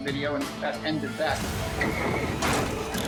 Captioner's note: thudding